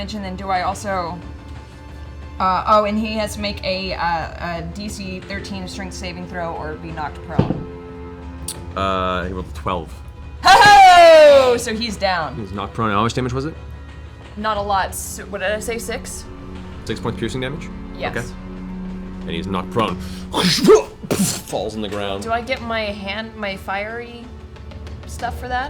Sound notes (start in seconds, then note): 10.4 cheers; 19.7 impact sound